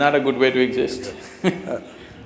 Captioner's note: laughter; laughs